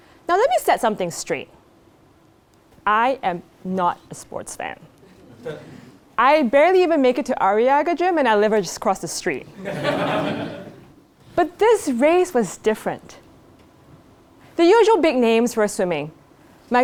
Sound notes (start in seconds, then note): 5.2 laugh; 9.6 laugh